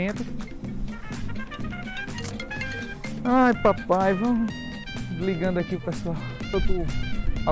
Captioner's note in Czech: zvoní telefon